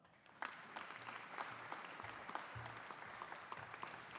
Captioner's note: audience applauding